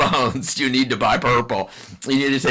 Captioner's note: laughs